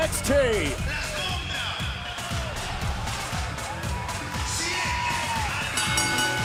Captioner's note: crowd cheering; bell ringing